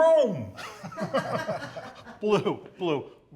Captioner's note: reporters laughing